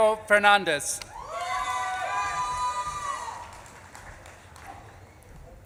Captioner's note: audience claps and cheers